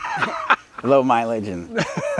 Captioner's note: laughing